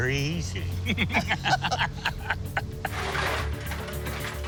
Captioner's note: both laugh